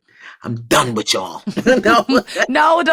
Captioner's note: laughs